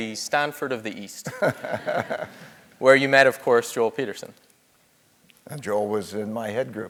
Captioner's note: laugh